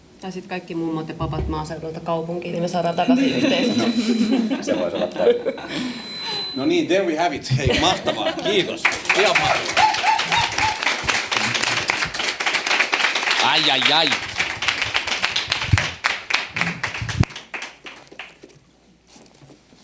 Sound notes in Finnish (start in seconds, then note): 3.0 naurua; 11.5 aplodeja; 16.7 aplodeja